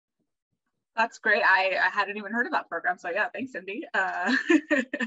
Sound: laughter

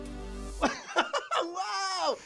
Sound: laughing

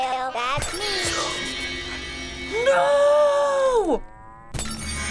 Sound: gasps; resonating chord

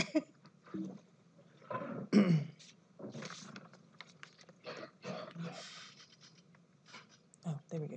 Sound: laughs; rustling

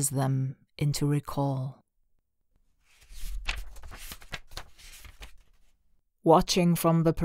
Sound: pageturning sound

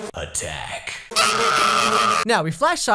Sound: screams of anguish

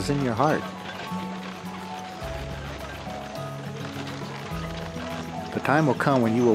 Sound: donkey cart creaks as they walk along the road

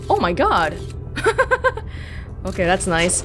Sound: laughs

